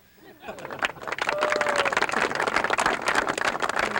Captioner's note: audience applauds